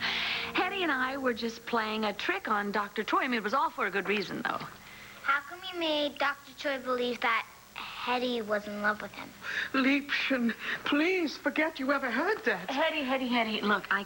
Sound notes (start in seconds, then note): none